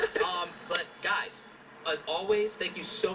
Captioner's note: male Voice